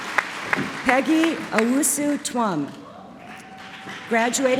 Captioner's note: applause; applause